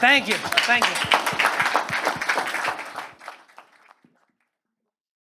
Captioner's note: students applauding